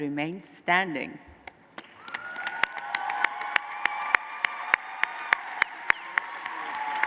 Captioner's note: applause